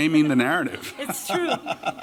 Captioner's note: laughter